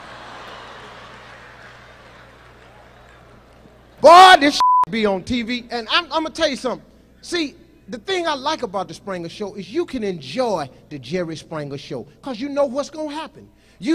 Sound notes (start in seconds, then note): 0.0 audience laughs; 4.5 beep